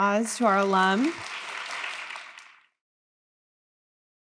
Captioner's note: audience applauds